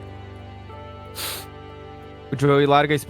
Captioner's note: crying